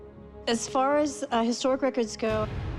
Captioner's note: none